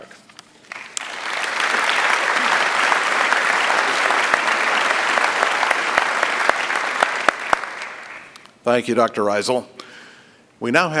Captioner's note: applause